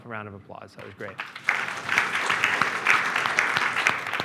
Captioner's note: applause